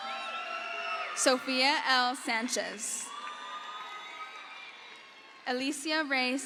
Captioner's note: crowd cheers